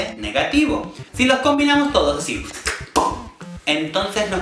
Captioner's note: slurps and pops